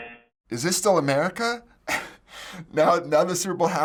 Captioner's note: buzzer; chuckles